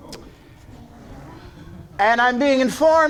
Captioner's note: audience chattering